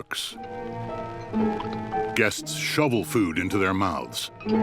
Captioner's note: slurping & chewing